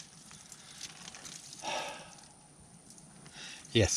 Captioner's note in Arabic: تنهد